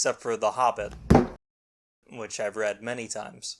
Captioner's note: thunk